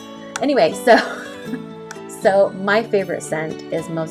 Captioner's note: laughs